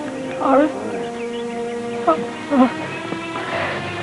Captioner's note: whimpering; sobbing